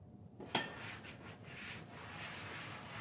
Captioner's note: wiping sounds